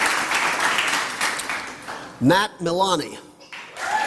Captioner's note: applause; applause